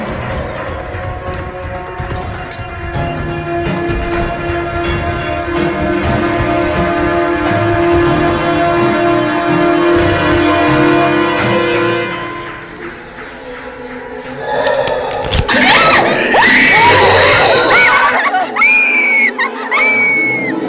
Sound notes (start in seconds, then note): 14.2 creature growls nearby; 16.5 shrieks and screams